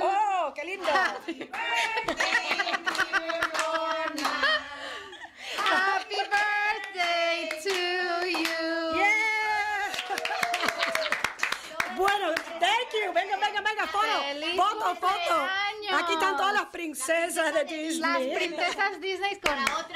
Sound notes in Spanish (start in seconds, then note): 9.9 Risas; 14.7 Aplausos